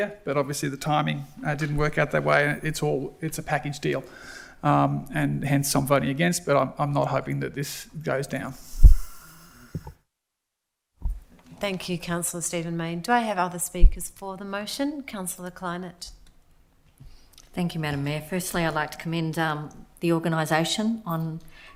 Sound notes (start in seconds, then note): none